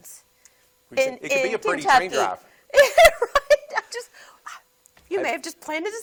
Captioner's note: laughs